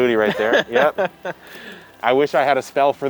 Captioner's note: distant chuckling